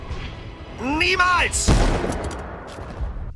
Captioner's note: bang